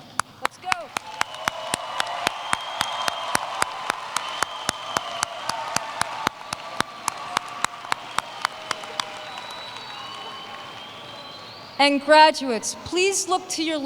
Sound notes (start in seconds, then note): 3.9 applause